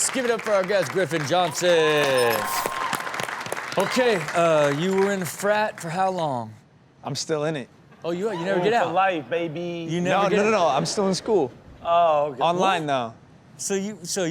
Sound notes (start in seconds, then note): 1.7 audience cheering and clapping